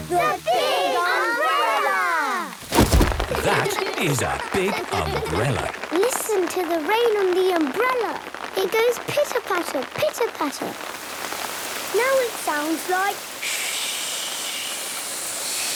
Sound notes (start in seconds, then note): 2.6 big umbrella opening; 6.0 raindrops pitter-pattering; 12.1 heavy rain